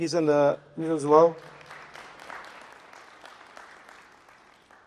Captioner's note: applause